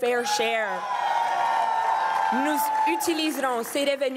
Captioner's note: crowd cheering and applauding